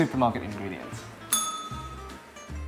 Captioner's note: bell rings